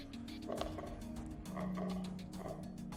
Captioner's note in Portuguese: risos